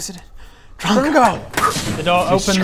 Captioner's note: poof